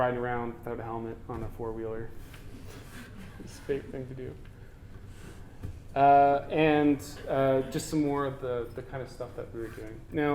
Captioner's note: audience: Laughter